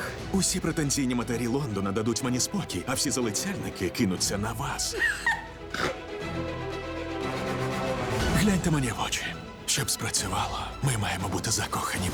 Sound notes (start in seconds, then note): 5.0 laughs, snorts